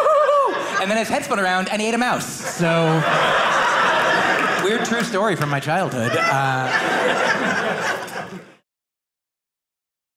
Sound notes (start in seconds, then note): 0.0 laughing; 2.1 audience laughing